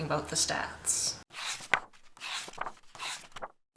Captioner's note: pages turning